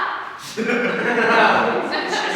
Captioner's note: audience laughs